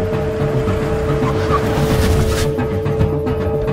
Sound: vehicle Screeching

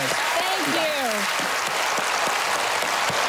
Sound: applause

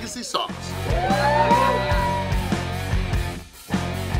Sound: cheering & Clapping

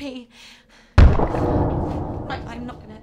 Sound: crash

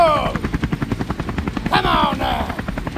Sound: chopper Sounds

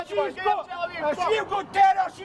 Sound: arguing, shouting

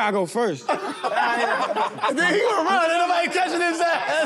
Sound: laughter

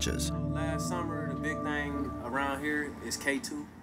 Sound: man speaking

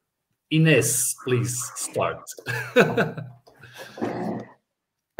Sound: laughs

